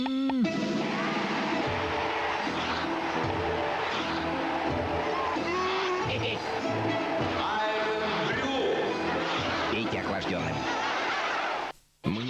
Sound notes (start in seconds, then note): 0.0 scream; 0.4 upbeat music; 0.6 scream; 8.9 laughter